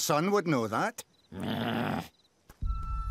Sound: growls

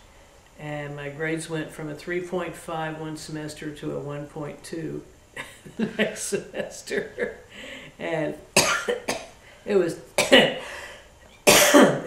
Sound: laughter

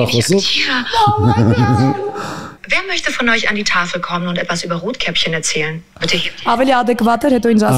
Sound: speech in German language

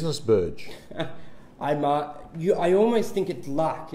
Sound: laughs

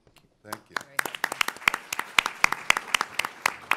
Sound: applause

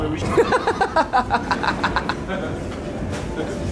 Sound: laughing

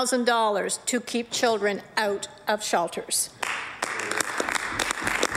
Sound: applause

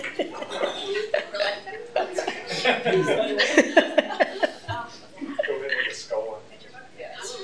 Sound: laughter

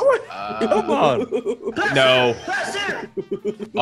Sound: laugh

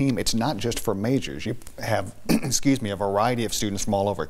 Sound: clears throat

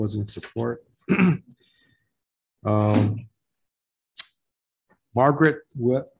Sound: clears throat

